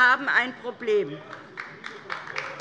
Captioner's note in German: Beifall DIE LINKE